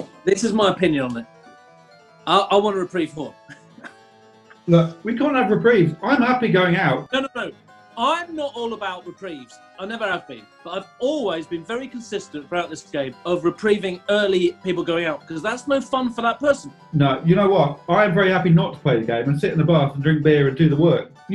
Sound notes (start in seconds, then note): 3.3 chuckling